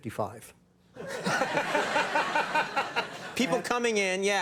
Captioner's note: Conan and audience laughing